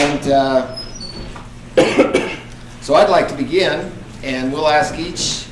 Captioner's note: coughing